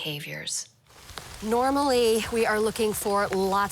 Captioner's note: rain pattering